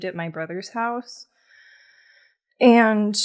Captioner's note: deep inhale